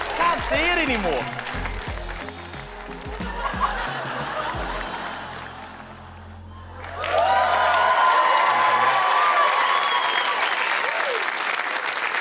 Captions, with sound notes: Can't see it any more. (LAUGHTER) (CHEERING, APPLAUSE)